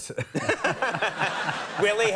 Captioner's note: laughing